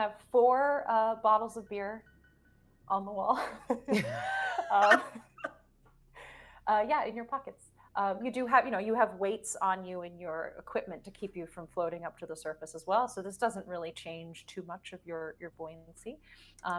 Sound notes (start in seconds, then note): 3.4 people giggling